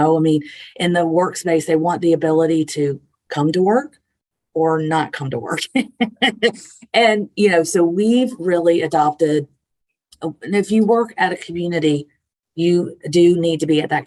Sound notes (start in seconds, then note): 5.6 laughs